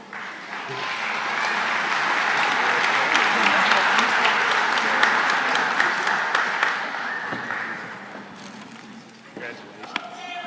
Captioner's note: applause